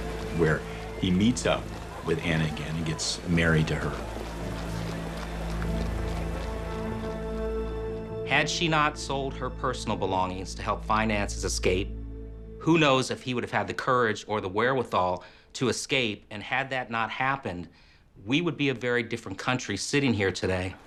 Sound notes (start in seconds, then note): 4.5 background sounds of city; 4.5 somber music